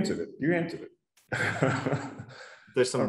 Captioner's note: laughs